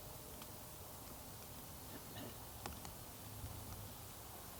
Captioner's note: rain taps